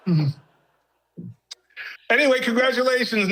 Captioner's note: audience laughing